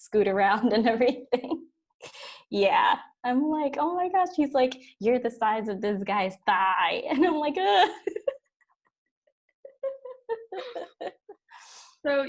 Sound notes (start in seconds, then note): 9.6 laughs